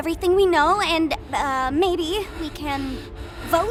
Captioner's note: panting